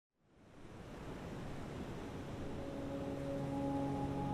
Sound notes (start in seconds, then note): 0.6 waves crashing; 2.4 airy pensive music